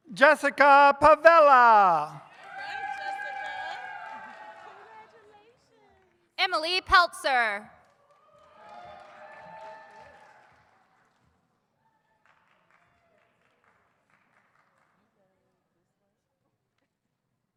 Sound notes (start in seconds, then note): 1.3 audience cheers; 8.4 audience cheers